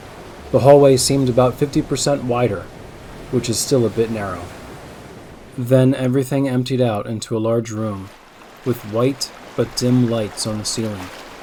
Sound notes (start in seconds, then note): 7.4 water rushing sound